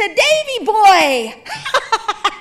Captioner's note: laughing